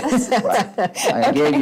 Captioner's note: laughs